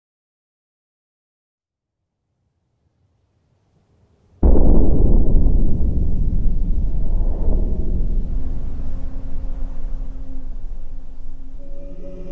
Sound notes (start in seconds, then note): 0.0 wind Ambience; 12.1 somber Music